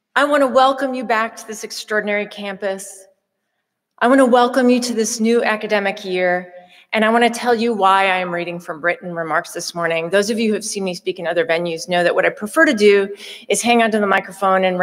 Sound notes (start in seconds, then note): none